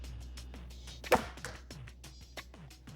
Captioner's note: thwack